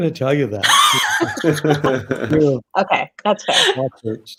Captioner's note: laughs